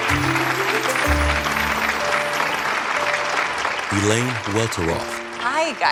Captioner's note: audience clapping